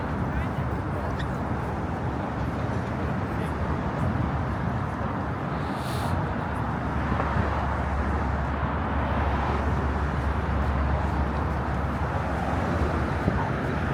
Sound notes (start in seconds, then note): 0.8 people chattering; 6.7 passing traffic